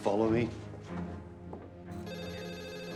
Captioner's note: footstep